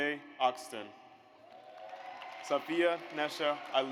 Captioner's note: audience applauds